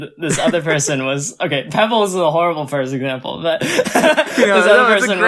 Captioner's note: laughs; laughs